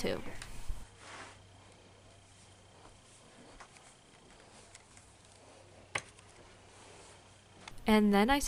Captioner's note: steps